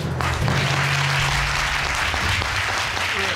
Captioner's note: audience applauds